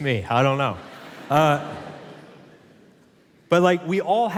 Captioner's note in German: Publikum lacht